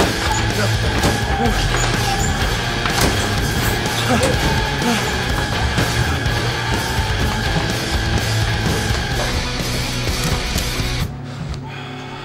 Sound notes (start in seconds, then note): 10.5 gun cocks